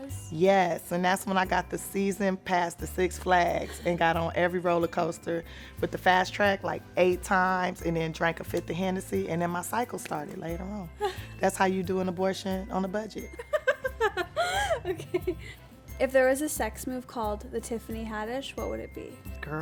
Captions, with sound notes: - Yes, and that's when I got the season pass to Six Flags, and got on every roller coaster with the Fast Track, like eight times and then drank a fifth of Hennessy, and then my cycle started later on. (laughs) That's how you do an abortion on a budget. (laughs) - Okay. If there was a sex move called The Tiffany Haddish what would it be?